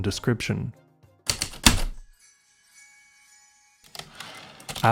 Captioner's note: heavy typewriter keystroke, return slide